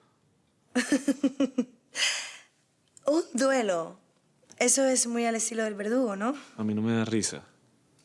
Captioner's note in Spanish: Risas